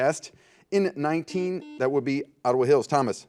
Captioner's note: buzzer